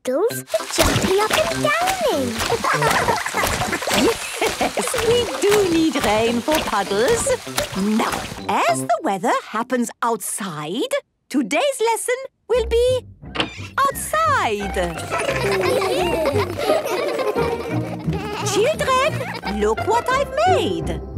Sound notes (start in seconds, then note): 1.4 laughing; 2.6 Madame Gazelle laughing; 14.8 laughter